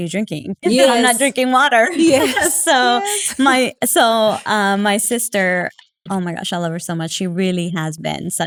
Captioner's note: laugh